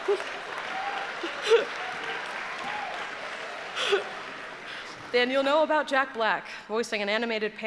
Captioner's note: laughter